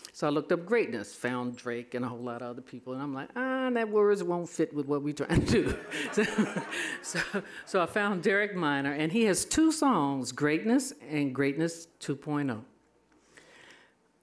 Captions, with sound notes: So I looked up greatness, found Drake and a whole lotta other people and I'm like, those words won't fit with what we're trying to do. (laughing) So I find Derek Minor and he has two songs, Greatness and Greatness 2.0.